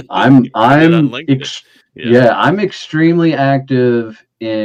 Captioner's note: chuckling